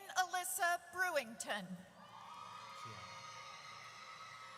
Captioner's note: audience cheers